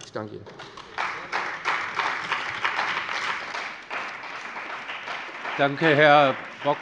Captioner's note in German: Beifall bei dem BÜNDNIS 90/DIE GRÜNEN und der CDU